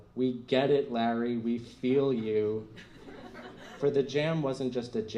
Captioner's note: laughter